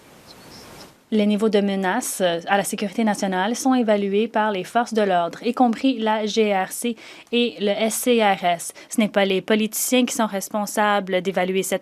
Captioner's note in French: voix de l'interprète